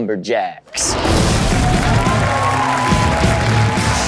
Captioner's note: crowd cheers